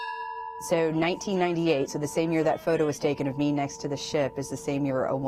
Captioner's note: bell ringing